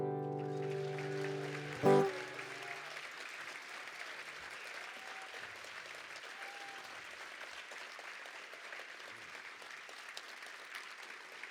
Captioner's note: applause